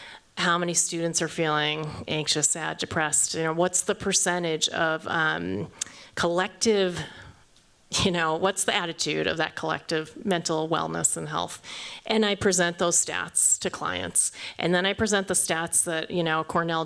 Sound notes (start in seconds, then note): none